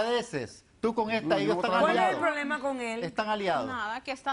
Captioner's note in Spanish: Hablan al unísono